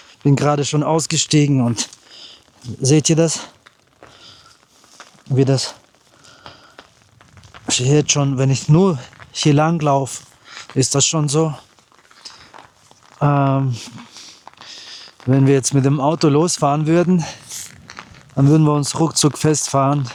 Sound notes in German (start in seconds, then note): 12.9 schnauben